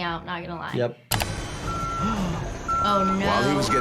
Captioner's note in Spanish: la maquinaria emite un pitido